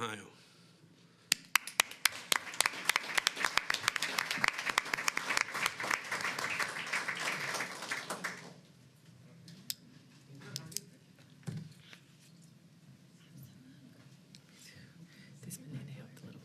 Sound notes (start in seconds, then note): 5.6 applause